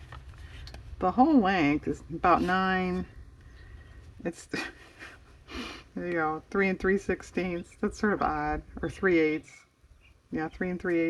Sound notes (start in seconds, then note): 4.3 laughs